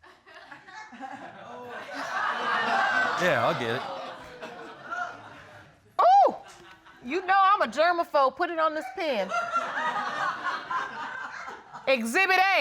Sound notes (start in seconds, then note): 0.9 audience laughing; 9.0 audience laughing